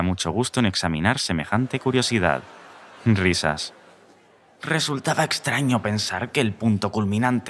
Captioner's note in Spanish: Risas